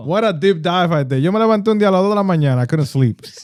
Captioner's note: speaking Spanish